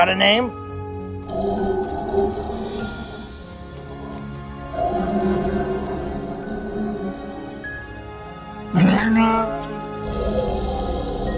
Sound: bumpy sounds

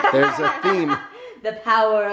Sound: laughing

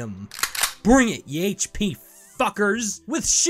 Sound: loads gun

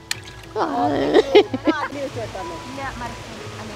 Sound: laughing

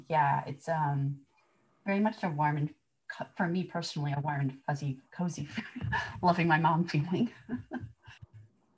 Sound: laughter

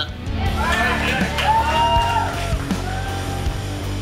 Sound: crowd whoops

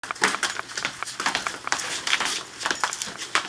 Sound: footsteps-no music

